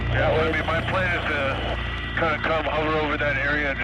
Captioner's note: intense music; man On Radio